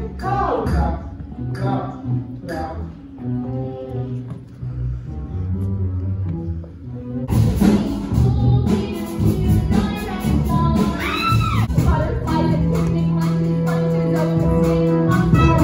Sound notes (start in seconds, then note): 11.0 shrieks